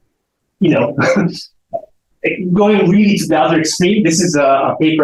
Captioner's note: chuckles